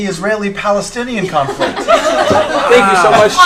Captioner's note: laughter